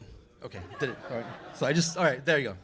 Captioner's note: laughter